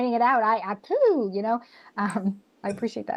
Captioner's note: imitates explosion